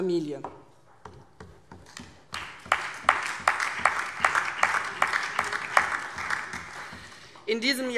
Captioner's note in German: Beifall CDU, BÜNDNIS 90/DIE GRÜNEN, SPD und auf der Regierungsbank